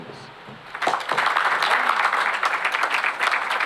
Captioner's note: applause